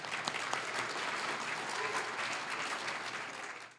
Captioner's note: applause